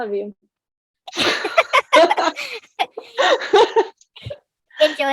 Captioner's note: laughs